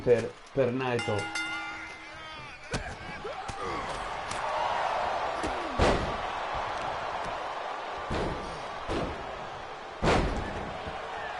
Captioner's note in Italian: Applauso; Applauso